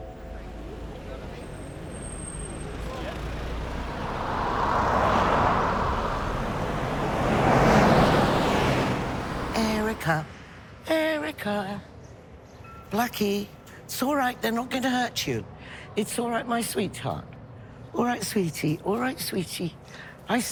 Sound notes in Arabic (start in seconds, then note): 2.6 الناس يتحدثون